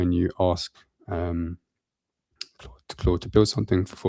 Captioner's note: lip smack